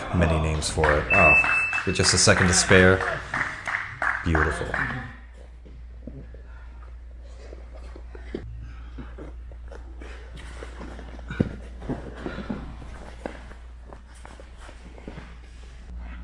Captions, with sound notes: And then he leans for it. (alarm beeps) Oh. (spectator applauds) With just a second to spare. Beautiful.